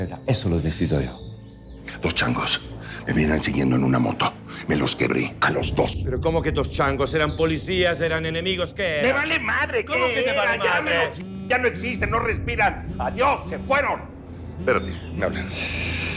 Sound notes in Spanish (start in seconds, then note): 12.9 Suena el celular